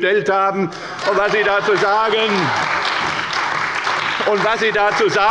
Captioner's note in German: Beifall bei der CDU